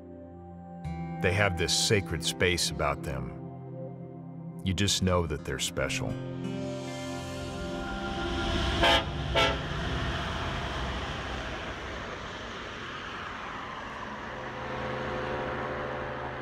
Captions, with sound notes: They have this sacred space about them. You just know that they're special. (train horn) (traffic noise)